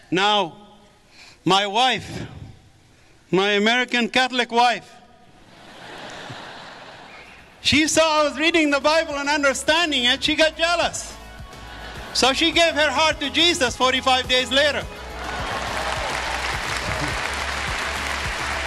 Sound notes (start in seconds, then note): 5.4 audience laughs; 15.1 audience applause